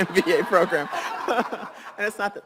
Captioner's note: laughs